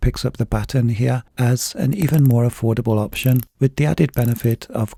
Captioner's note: bezel clicking